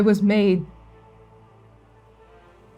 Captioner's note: none